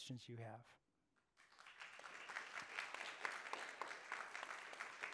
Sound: attendees applauding

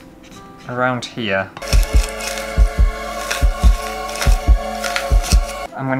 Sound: horror Sounds

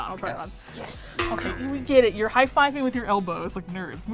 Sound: boing

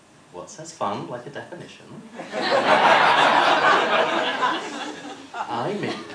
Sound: laughter

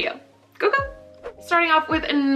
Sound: speaking Korean

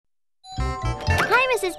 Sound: doorbell

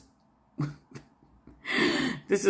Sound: snickering

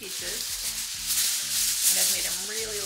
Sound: foil rustling

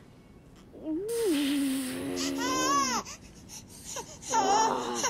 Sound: babies crying

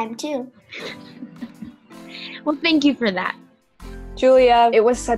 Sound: laughs

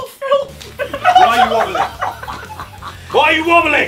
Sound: group laughing

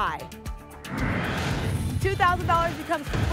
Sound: whoosh

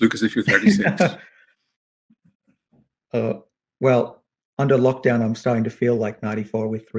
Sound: chuckles

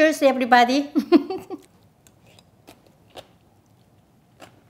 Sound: laughs

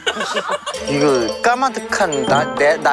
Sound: frustrated

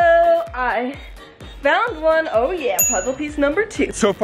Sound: dings

